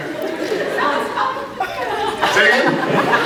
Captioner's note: scattered laughs; croaks; laughs